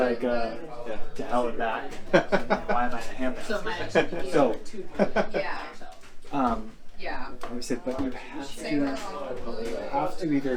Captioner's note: laughs